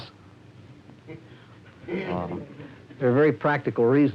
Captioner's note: laughter